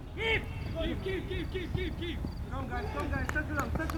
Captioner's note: field chatter